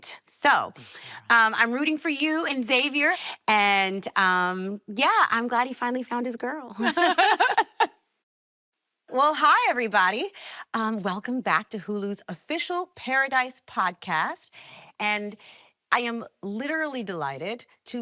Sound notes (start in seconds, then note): 6.8 both laughing